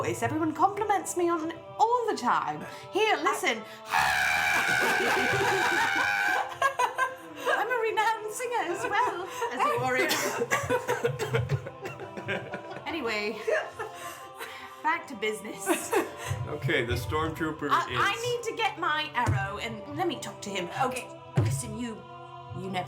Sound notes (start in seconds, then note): 3.8 growly scream; 13.3 laughter